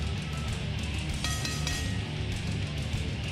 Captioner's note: bell ringing